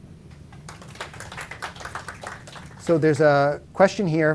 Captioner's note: applause